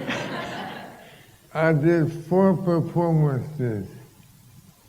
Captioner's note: laughter